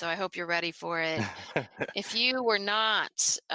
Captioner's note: laughs